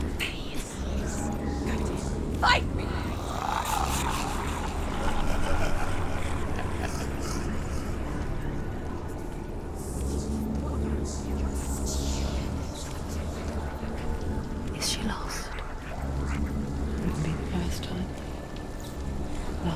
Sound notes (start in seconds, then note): 2.9 guttural, mocking laughter